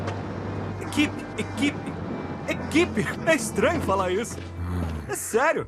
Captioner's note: chuckling